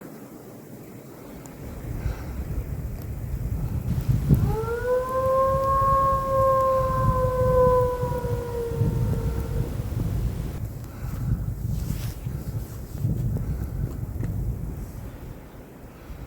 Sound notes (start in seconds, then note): 0.8 wind; 4.2 howls; 8.8 wind